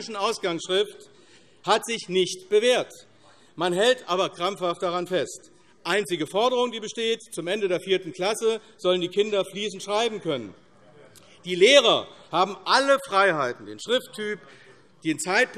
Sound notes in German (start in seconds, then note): none